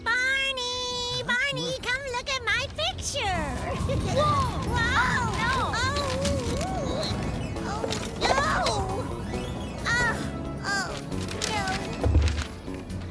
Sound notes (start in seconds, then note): 3.4 gust of Wind